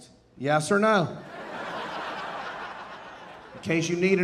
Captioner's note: audience laughing